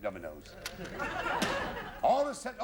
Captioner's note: laughter